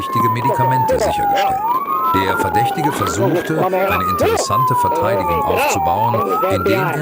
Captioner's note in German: schreien